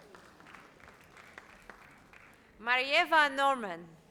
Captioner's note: audience applauds